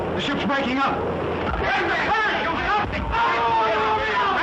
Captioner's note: passengers clamoring